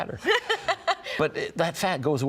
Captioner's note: laughs